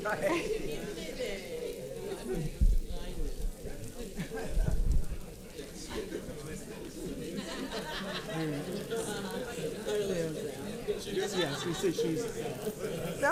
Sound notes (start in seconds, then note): 1.0 paper crinkling and audience chattering; 7.7 audience chuckling; 9.6 paper crinkling and audience chattering